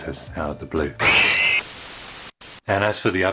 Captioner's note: crash, Screams!; Static